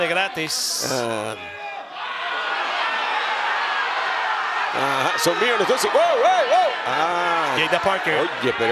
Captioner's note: applause